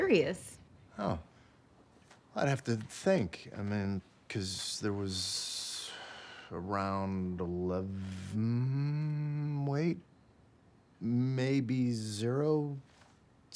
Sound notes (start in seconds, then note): 5.4 sighs